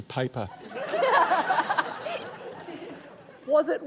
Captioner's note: laughs